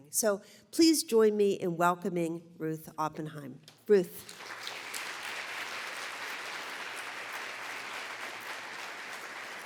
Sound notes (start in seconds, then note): 4.2 applause